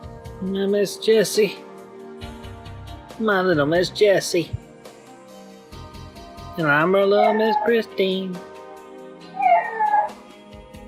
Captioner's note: dog barking